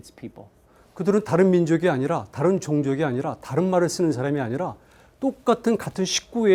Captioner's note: speaking in Korean